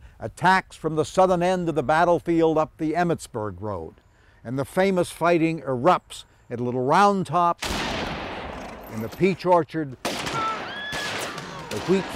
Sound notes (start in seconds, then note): 7.6 cannon explodes; 10.4 horse squeals